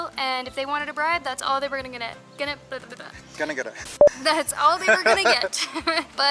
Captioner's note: laughter